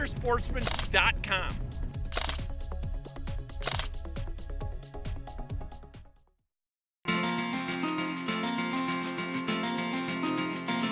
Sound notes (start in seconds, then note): 2.0 camera clicking sounds; 7.0 light rock music